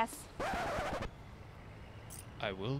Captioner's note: record scratch